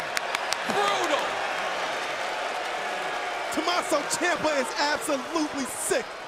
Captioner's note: crowd cheering; crowd chatter